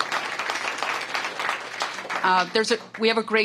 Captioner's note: applause